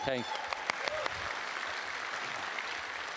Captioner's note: applause